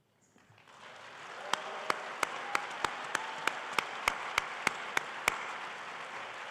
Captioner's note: and audience cheering and applauding